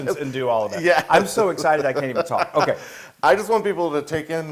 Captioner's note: laugh